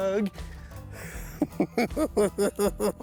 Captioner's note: chuckles